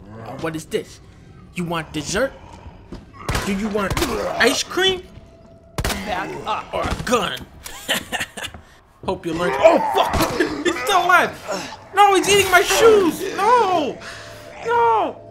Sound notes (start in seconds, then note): 7.7 anime laugh